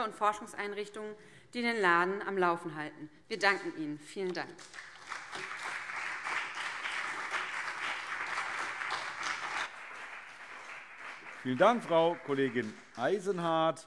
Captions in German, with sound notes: Forschungseinrichtungen, die den Laden am Laufen halten. Wir danken Ihnen. - Vielen Dank. [Beifall BÜNDNIS 90/DIE GRÜNEN und CDU] Vielen Dank, Frau Kollegin Eisenhardt.